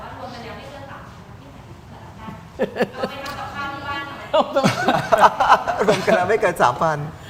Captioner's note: laughter